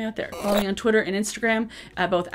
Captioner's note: static cracks